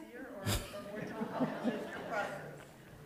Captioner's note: laughter